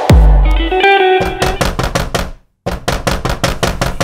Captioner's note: Door knocking